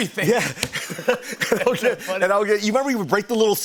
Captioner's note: both laugh